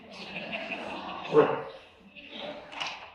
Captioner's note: laughter